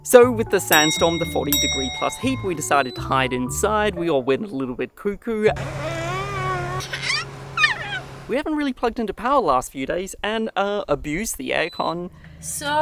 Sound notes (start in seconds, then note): 5.8 baby squeals